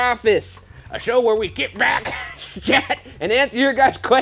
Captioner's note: laughs